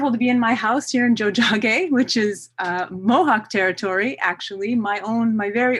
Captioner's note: non-english speech